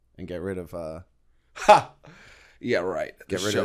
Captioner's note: chuckle